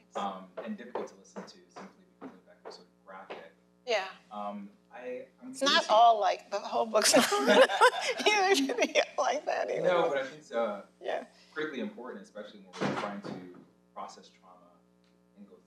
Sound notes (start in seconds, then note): 6.4 laughs